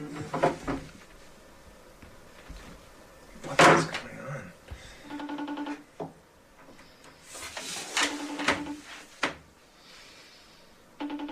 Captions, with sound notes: -What's going on? [phone ringing]